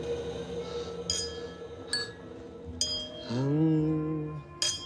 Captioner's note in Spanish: Tintineo de copas